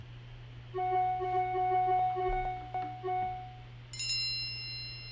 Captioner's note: squares chiming